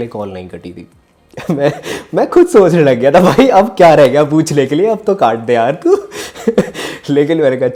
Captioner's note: laughs